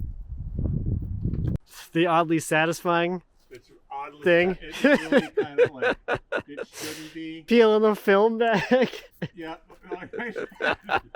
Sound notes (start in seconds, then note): 4.7 speaker laughing